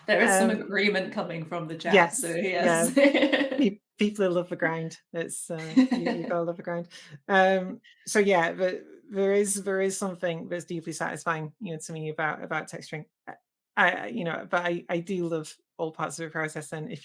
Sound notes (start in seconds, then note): 2.6 laughs; 5.6 laughs